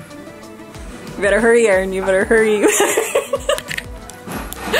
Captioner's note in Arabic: يضحك